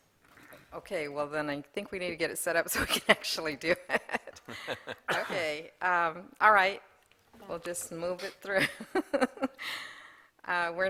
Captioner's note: laughter